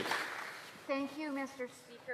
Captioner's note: some Applause